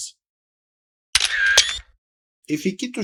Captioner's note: camera Shutter Sound